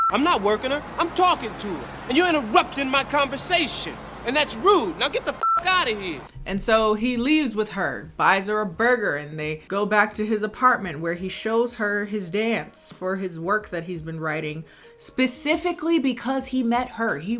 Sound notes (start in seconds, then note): 0.0 beep; 5.4 beep